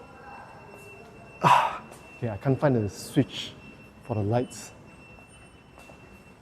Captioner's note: sigh